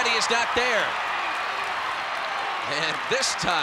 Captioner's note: applause